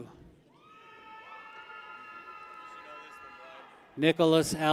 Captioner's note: people cheer